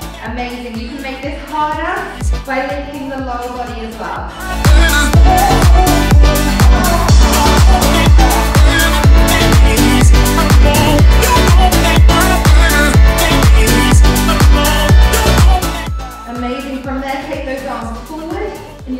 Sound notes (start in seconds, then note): 12.5 beeping